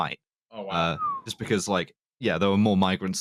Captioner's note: whistles